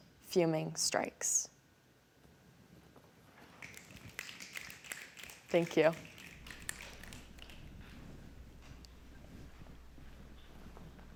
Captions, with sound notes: fuming strikes." [SNAPPING] Thank you. [SNAPPING]